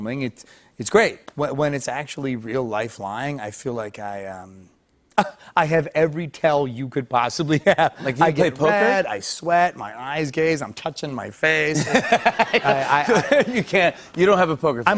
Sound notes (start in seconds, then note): 11.7 laughter